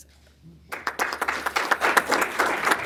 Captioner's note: applause